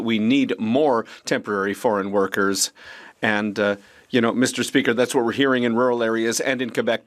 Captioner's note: speaking French